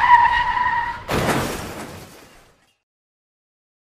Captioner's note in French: dérapage de voiture; bruit d'accident de voiture. Ouch, ça doit faire mal